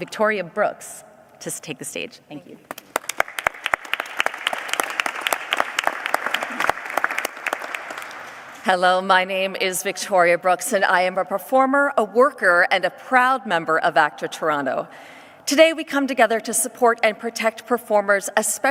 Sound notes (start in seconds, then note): 4.6 applause